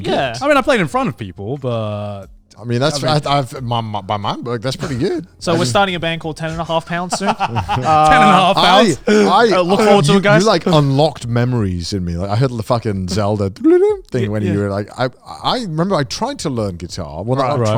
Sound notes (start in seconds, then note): 6.9 laughing; 13.5 blabbers